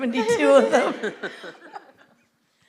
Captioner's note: laughter